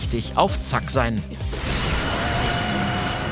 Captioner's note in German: Kampflaute